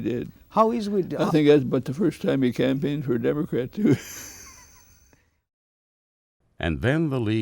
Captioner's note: laughs